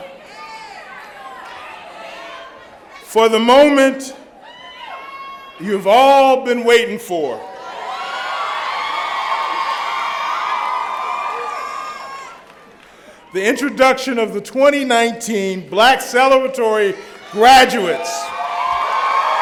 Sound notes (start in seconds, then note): 7.3 cheering; 18.9 cheering